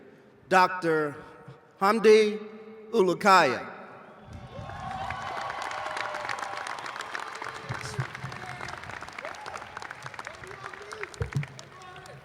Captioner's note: cheers